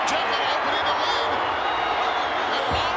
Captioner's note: crowd cheering